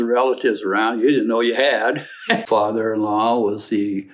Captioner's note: laughs